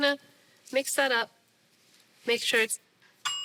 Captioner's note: oven rings